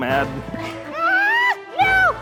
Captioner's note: yelling